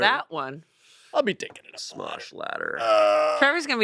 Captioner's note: groans